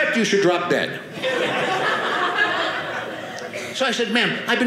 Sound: audience laughing

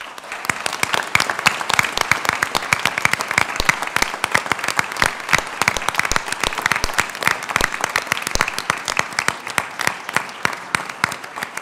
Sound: applause

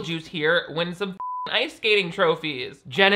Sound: beep

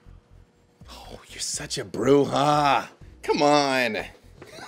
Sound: groans

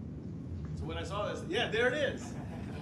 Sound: chuckling

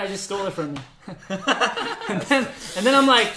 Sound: laughs

